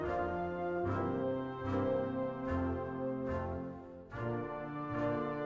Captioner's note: none